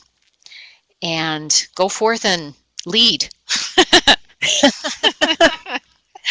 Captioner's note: laughing